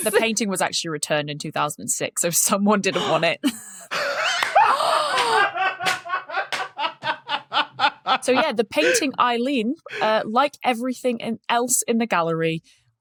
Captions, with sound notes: And the painting was actually returned in 2006. So someone didn't want it. (laughs uproariously) (gasps) (claps) So yeah, the painting Eileen – like everything else in the gallery –